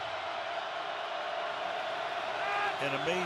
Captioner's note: crowd cheering